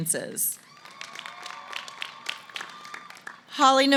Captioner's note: applause